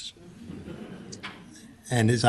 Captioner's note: laughter